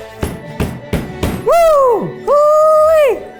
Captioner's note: banging